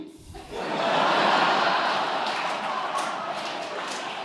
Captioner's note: audience laughing